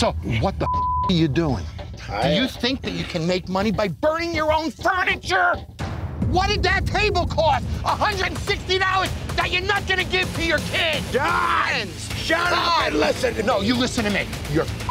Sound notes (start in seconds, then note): 11.3 yells